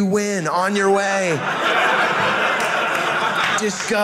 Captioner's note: audience laughing